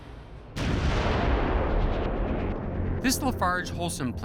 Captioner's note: explosion